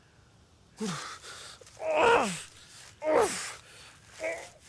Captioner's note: Arawn groaning